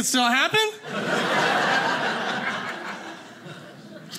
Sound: audience laughing

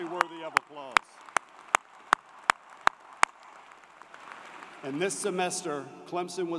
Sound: applause

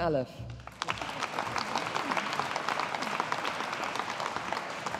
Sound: audience applauding

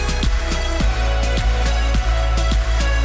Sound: none

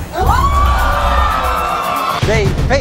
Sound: audience screaming

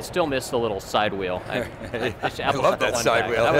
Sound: laughs

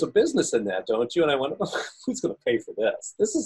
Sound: scoffing

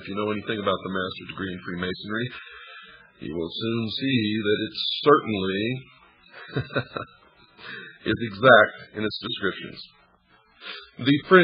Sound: laughs

